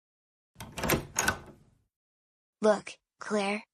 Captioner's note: door opens